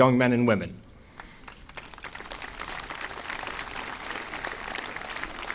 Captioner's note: audience applauding